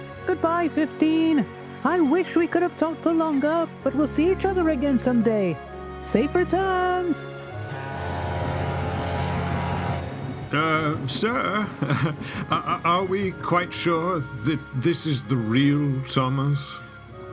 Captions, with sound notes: Goodbye, Fifteen! I wish we could have talked for longer, but we'll see each other again someday. Safe returns! *freighter honks* Uh.. Sir.. *nervous laugh* Are we quite sure that... this is the real Thomas?